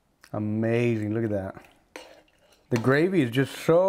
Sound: carne guisada sloshing

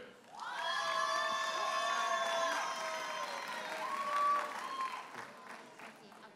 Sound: audience cheers and applauds

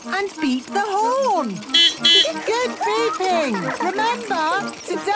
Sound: giggling; beeping

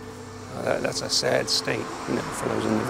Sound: cars driving

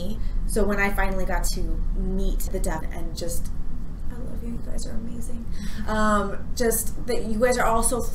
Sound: whispers

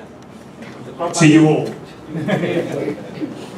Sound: laugh

